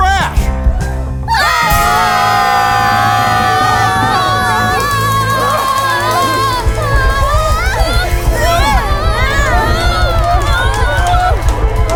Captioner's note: much screaming